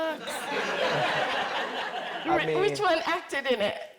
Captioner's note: audience laughing